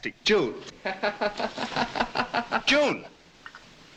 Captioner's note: laughing